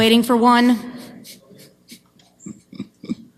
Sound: chuckles

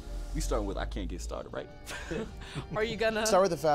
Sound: laughter

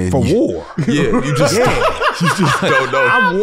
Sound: laughs

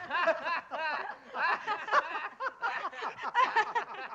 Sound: laughing

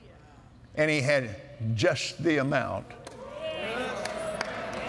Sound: cheers & Applause

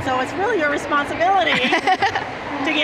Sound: laughing

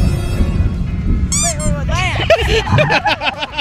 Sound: suspenseful music; squeak; laughing

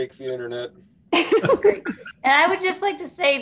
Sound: scattered laughing

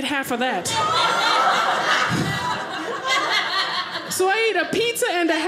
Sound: audience laughing

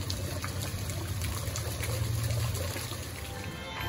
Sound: water falling off of the grist mill

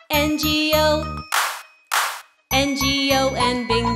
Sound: clap

